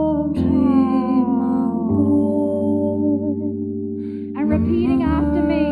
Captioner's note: sighs